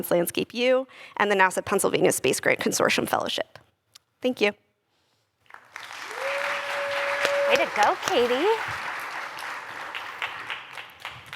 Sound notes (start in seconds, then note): 5.4 applause